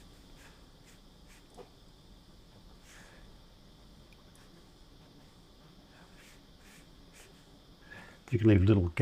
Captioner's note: silence